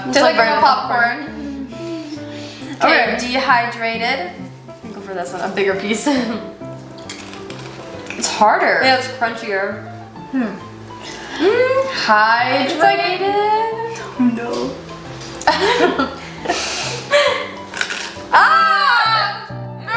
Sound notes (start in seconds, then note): 15.4 girls giggling